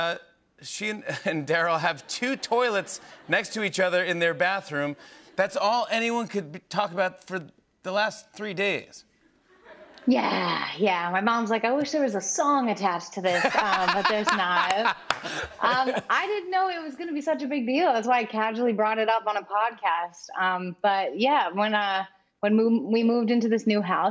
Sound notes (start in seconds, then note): 13.2 laughter